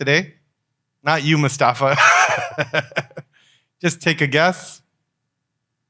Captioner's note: laughs